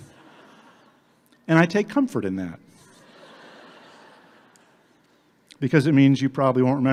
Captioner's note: audience laughing